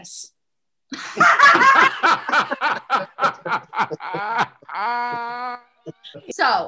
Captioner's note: laughing